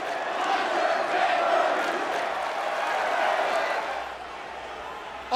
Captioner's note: crowd murmuring